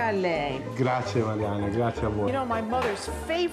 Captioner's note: speaking Italian